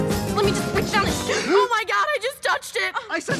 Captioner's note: both gasp